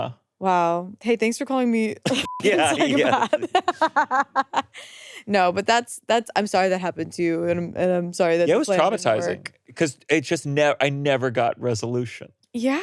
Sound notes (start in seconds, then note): 2.2 beeps; 3.9 laughing